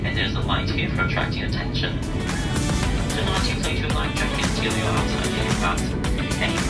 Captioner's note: attendant speaking over PA system